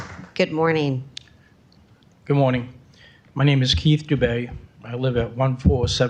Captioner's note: applause